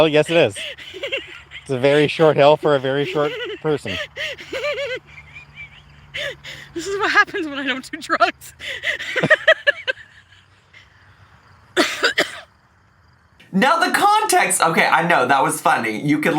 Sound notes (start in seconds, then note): 4.3 laughs; 9.0 laughs; 11.7 coughs